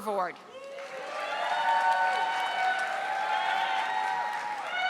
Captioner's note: audience applauding